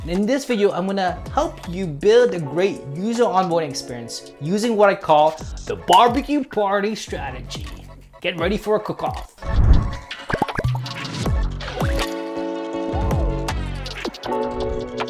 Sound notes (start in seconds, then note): 9.8 popping sounds; 12.5 upbeat music